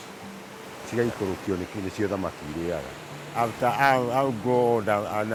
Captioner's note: non-english speech